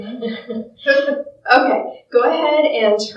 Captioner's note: laughs